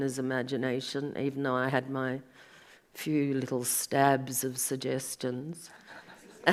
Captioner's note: audience laughs